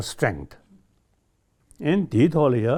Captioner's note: speaks in Tibetan